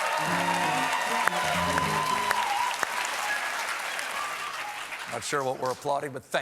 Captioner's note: applause